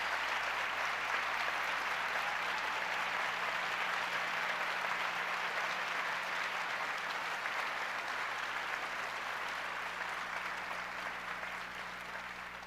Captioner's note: applause